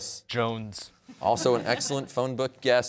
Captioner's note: audience chuckling